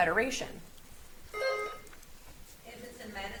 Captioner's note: buzzer beeps